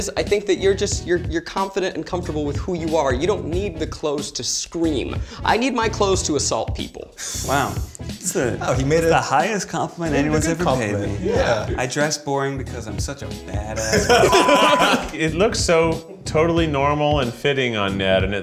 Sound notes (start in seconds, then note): 7.2 Eugene laughs; 13.8 group laughs; 14.1 beep